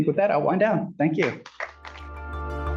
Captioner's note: applause